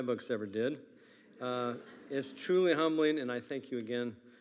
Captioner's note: attendees laughing